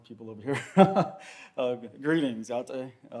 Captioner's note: chuckles